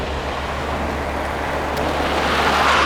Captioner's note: fast car